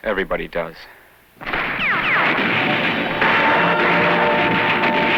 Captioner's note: gunfire